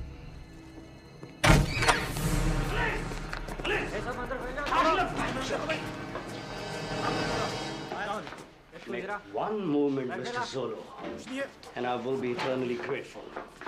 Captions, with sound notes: - Police! Police! Police! (speaking foreign language) - Make one move, Mr. Zolo, and I will be eternally grateful.